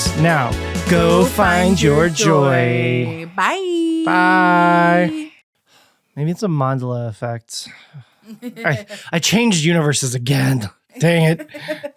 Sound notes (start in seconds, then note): 5.5 sighs; 8.3 laughs